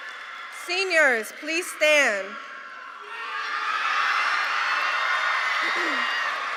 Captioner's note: cheers